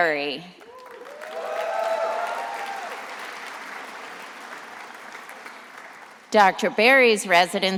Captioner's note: attendees applauding and cheering